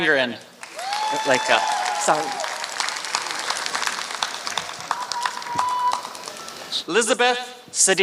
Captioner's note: applause